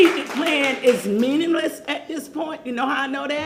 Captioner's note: applause